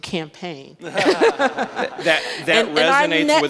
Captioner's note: audience laughs